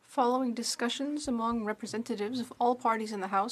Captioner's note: speaking French